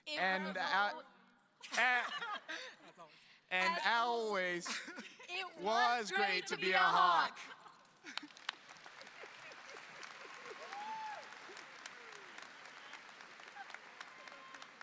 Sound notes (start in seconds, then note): 1.9 laughing; 7.9 audience applauding